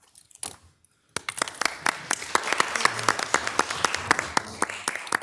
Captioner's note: audience applauding